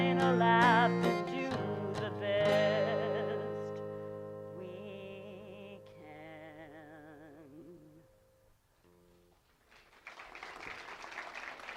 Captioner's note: audience applause